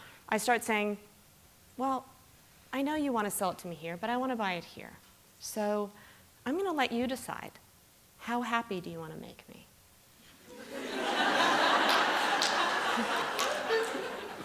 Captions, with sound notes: I start saying, well, I know you want to sell it to me here, but I want to buy it here. So I'm going to let you decide how happy do you want to make me. [LAUGHTER]